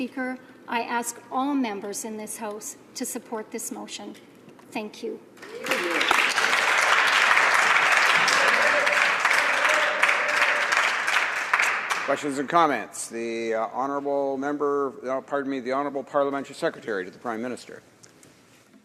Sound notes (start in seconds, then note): 9.7 applause